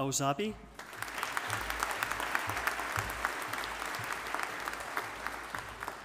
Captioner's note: audience applauding